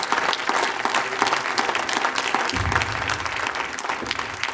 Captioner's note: applause